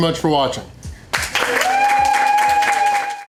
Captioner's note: crowd applause